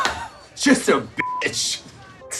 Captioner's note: woman laughs; beeps